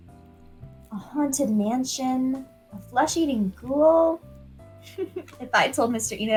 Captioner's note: in-character chuckle